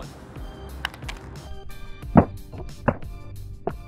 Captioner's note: phone clatters